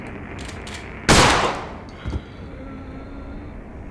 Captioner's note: gun firing